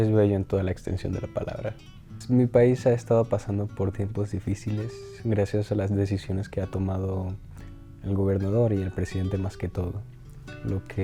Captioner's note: speaking Spanish